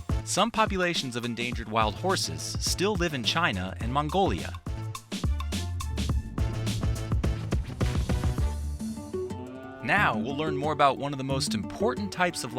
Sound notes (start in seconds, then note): 8.9 gentle lively music; 9.4 cattle mooing